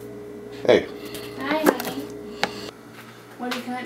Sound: continuous chopping

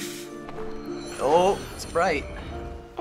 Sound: in game: chime

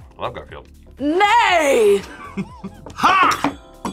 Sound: laughs

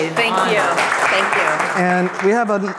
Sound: audience applauds

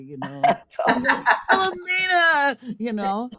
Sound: all laughing

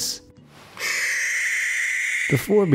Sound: shrieking

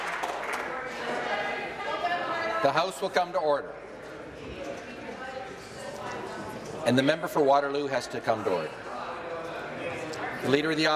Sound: applause

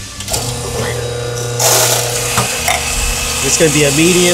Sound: machine whirring

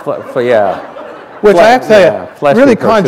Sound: laughter

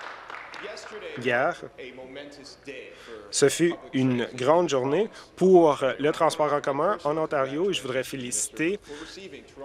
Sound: applause

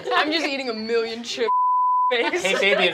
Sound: beeping

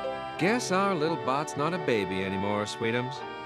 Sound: clock ringing

